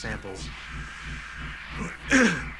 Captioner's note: inhales deeply; clears throat